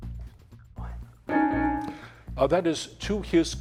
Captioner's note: timer beeping